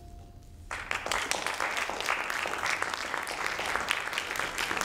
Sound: audience applauds

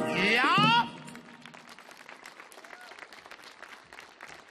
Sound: audience clapping

